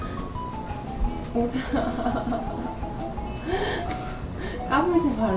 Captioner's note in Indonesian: tertawa